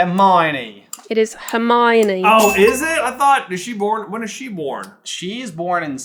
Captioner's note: accented